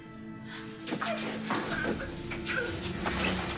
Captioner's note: woman gasping; intense music